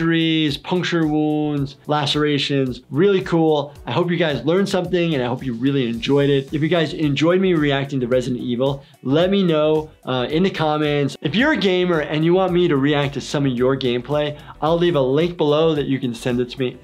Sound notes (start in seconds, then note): none